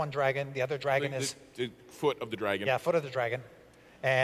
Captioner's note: stutter